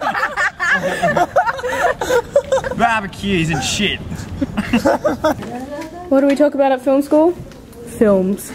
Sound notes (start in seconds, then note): 0.0 laughs